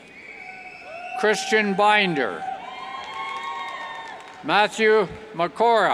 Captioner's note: cheers